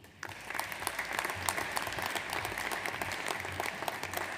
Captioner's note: audience applauds